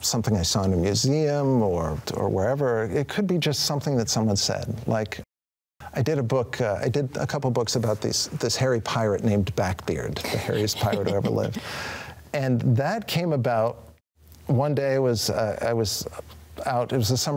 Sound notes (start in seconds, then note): 10.3 chuckles